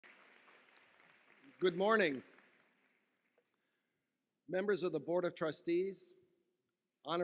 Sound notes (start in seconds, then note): 0.0 applause